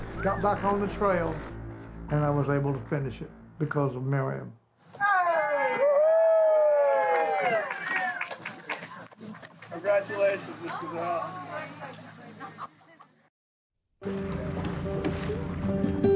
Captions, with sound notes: Got back on the trail, and I was able to finish it because of Meriam. Woo hoo! Congratulations, Mr. Dale. (crowd cheering) (happy guitar music)